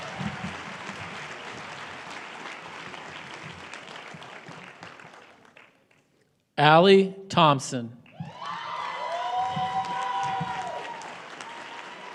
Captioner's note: applause; applause